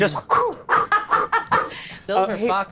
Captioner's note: huffing